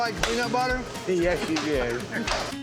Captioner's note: laughs